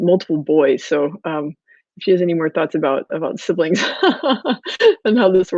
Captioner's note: laughs